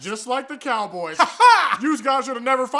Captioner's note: weird laughing